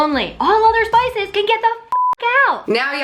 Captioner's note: beeps